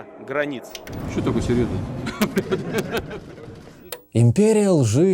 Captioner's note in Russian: Путин смется